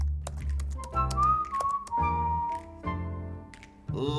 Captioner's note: keyboard keys clacking; uplifting instrumental music; whistling